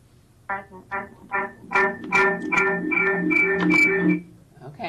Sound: radio echoing

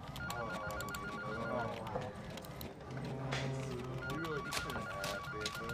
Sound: people chattering; phone rings

